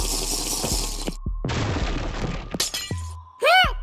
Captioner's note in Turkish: Duvar kırılma sesi